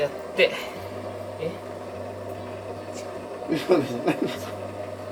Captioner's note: laughs